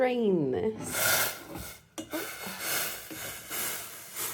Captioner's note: pan hissing